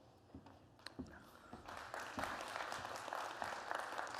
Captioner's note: applause